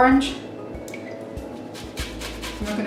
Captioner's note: orange grates on grater